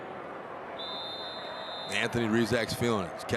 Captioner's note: referee blows whistle